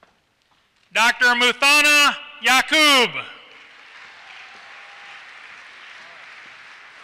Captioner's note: applause